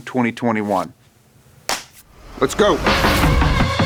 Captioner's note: hand clap; upbeat music